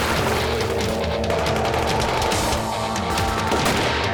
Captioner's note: gunshots